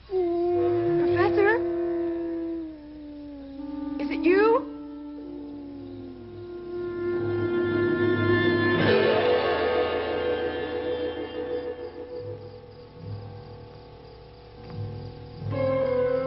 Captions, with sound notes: (creature howling) - Professor? Is it you?